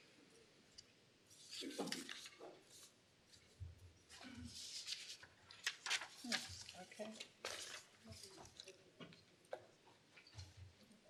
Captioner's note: shuffling